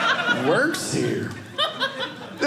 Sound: audience laughing

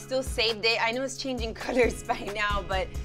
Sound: laughs

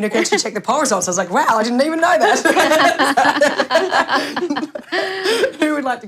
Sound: laughter

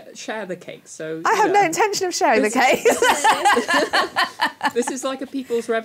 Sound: laughs

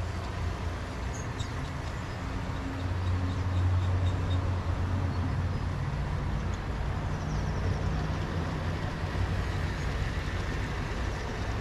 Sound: birds chirping

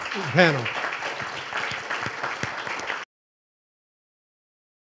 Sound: audience applauds

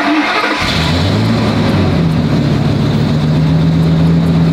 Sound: engine starting sound

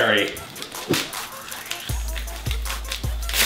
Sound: paper ripping

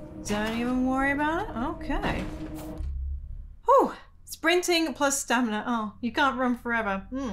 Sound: none

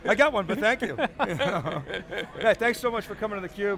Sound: both chuckling

